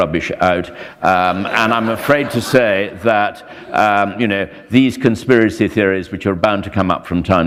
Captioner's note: laughter